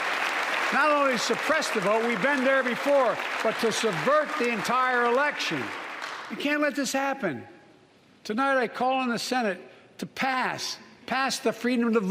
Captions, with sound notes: AND LOOK, IT'S UNDER ASSAULT. [ APPLAUSE ] IN STATE AFTER STATE, NEW LAWS HAVE BEEN PASSED. NOT ONLY SUPPRESS THE VOTE, WE'VE BEEN THERE BEFORE, BUT TO SUBVERT THE ENTIRE ELECTION.